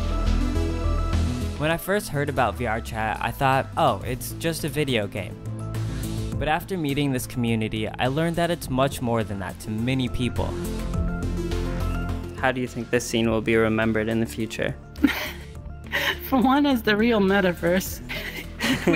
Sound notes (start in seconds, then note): 0.2 bright music; 10.6 bright music; 15.0 chuckling